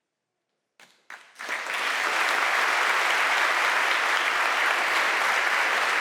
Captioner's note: audience applauding